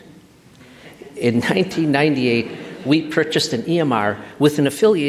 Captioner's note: laughter